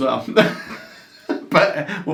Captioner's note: both laughs